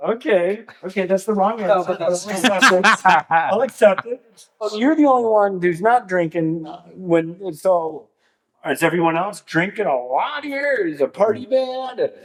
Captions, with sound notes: Okay, okay, that's the wrong answer. (Laughing) I'll accept it. So you're the only one who's not drinking, when it's all, it's everyone else drinking a lot here. It's a party band?